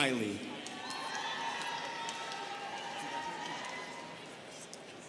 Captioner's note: students cheering